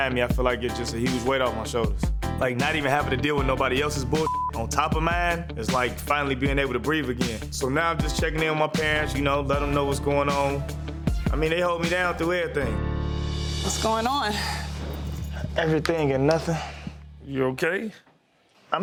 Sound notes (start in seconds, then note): 4.2 beep